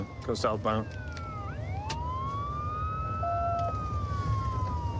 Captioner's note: sirens wailing